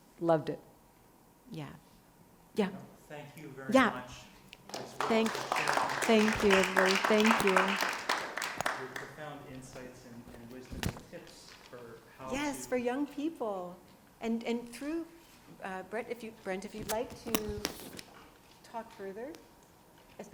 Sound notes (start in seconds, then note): 4.6 audience clapping